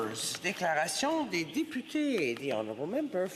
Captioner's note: speaking French